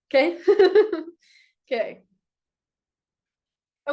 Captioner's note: chuckles